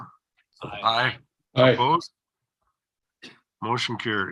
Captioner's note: silence